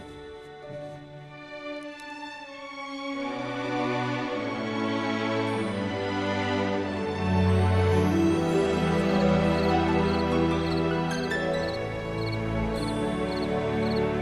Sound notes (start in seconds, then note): 1.4 romantic music; 9.5 crickets chirping